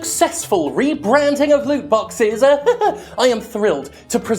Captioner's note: laughs